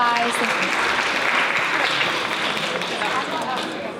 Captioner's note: applause